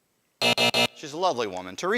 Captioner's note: buzzer